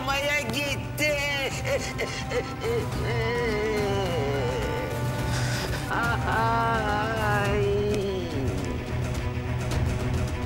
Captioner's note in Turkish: ağlama sesi̇